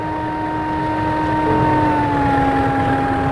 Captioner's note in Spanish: Sonido de tren